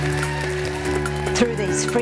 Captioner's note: applause